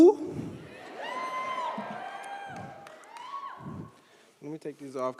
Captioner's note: audience cheers